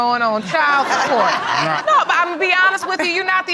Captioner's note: all laughing